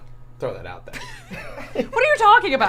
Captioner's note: both laughing